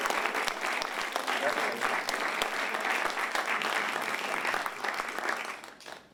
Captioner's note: applause